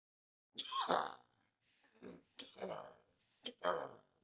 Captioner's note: coughing